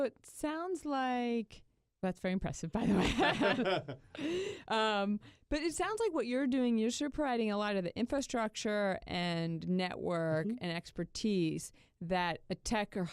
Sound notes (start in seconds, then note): 2.8 laughter